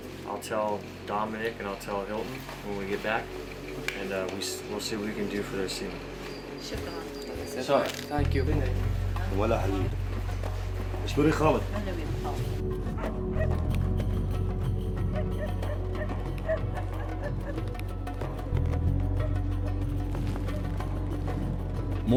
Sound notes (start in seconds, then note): 6.6 woman speaks in Arabic; 9.7 iraqi soldiers speak to woman in Arabic; 12.8 dogs barking